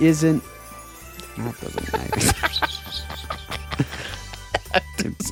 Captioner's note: laughing